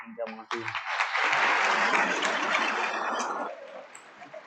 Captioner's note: audience applauds